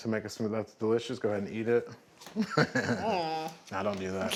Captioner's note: laughs